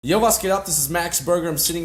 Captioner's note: speaks in foreign language